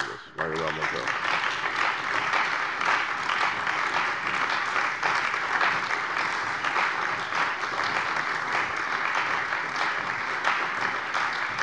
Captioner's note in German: Anhaltender Beifall bei der CDU